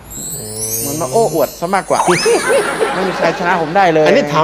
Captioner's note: laughing